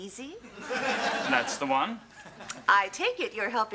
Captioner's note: audience laughs